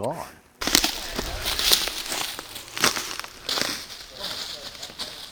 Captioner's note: branches snapping